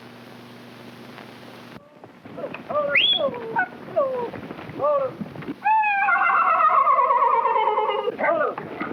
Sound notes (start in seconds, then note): 2.2 hooves clopping; 2.9 cowboy whistles; 4.0 cowboys whooping; 5.7 horse whinnies; 8.7 cowboys whooping